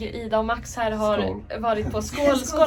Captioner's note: cheers in Swedish